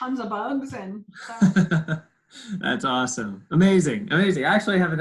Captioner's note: laughs